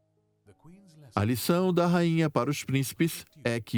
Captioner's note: voiceover